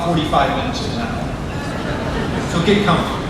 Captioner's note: crowd laughing